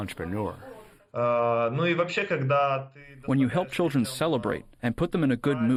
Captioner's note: through translator